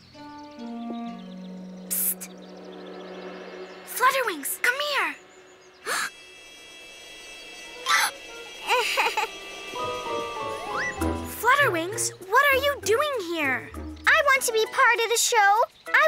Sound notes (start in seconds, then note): 0.1 gentle plaintive music; 5.9 Flutterwings gasps; 7.9 Spot Splatter Splash gasps; 8.6 flutter wings giggles